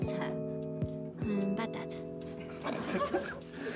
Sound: French

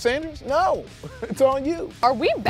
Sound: laughs

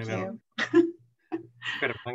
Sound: laughter

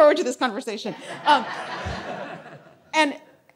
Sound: audience laughing

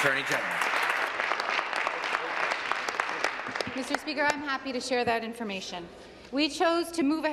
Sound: applause

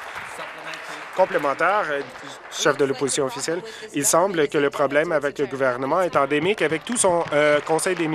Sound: applause

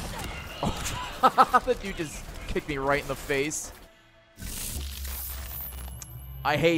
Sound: laughs

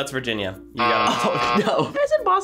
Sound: buzzer rings

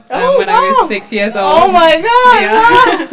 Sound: laugh

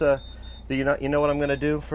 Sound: beeping

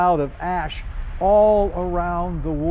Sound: thunder rumbling

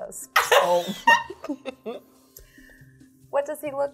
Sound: participants laughing

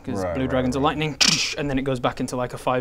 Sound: tsssch

